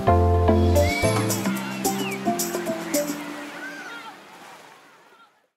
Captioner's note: children shouting excitedly